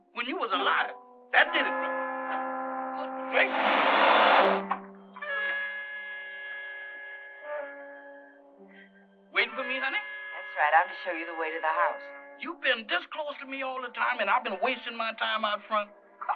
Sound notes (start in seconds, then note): 3.2 engine revving